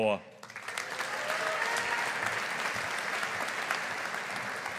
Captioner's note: audience applauding